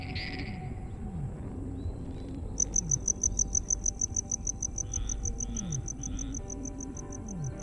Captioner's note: crickets chirping; speaking in foreign language